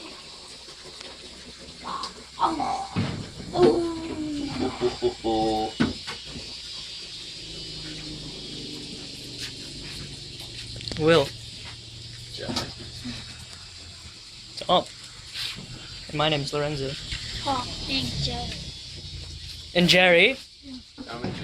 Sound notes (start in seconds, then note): 3.5 groaning